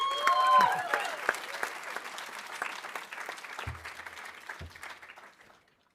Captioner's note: audience cheering; audience applauding